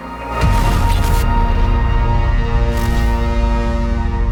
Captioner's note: electricity buzzing